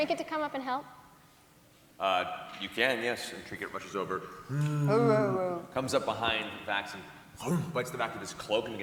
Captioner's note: moans